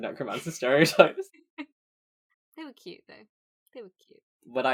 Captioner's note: laughs